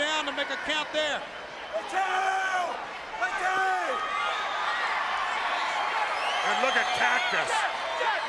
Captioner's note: crowd cheering